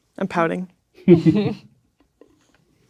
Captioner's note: laughing